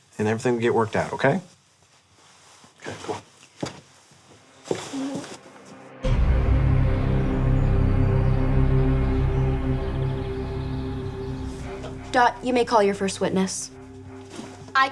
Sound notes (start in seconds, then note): 4.4 intense music; 4.6 footsteps clattering